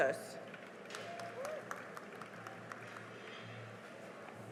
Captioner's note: cheering and applause